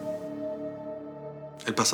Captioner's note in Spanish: exclamación